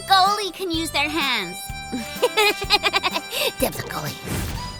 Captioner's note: slight maniacal laughter